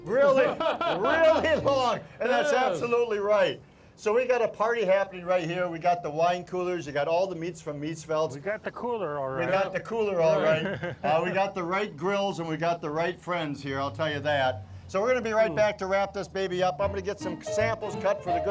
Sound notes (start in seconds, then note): 0.1 laughing; 10.3 laughing; 16.8 piano playing